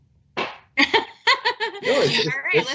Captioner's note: laughing